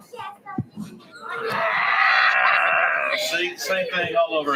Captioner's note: growling